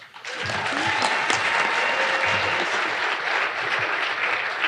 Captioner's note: audience applauding